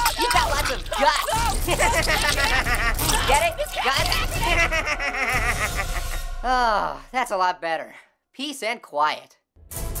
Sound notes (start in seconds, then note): 0.0 laughs